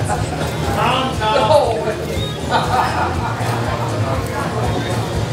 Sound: crowd gasps and laughs

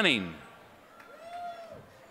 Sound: applause

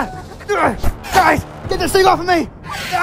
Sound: Elliot struggling

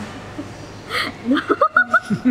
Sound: laugh

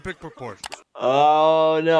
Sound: computer mouse clicks

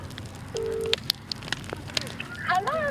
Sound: explosion; phone dialling

